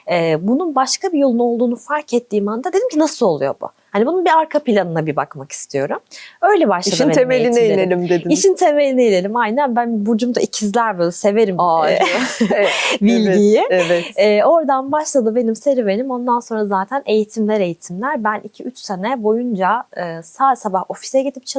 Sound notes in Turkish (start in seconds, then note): 11.9 kahkaha